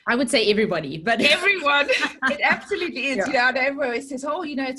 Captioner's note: both laughing